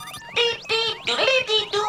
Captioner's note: beeping